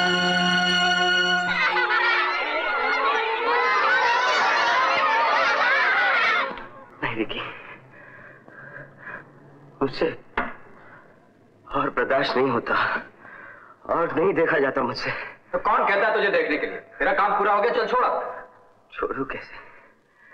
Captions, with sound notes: (All Cheering) No, Vicky. I can't bear it anymore. I can't see anymore. So who is telling you to see? Your work is done, now leave it. How should I leave it?